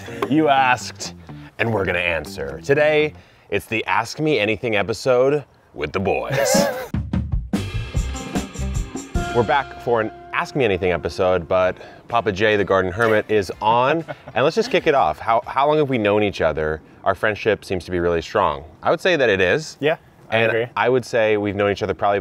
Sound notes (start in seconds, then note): 0.0 both chuckling; 6.2 laughing